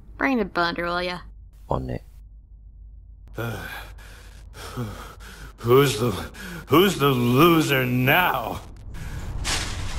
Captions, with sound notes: Bring the blender, will ya. On it. [OUT OF BREATH] Who's the - Who's the loser now!?